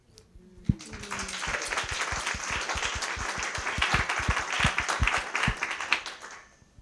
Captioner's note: applause